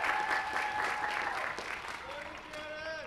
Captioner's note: applause